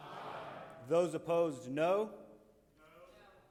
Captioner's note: most members agreeing in background